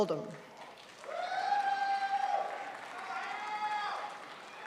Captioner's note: crowd applauds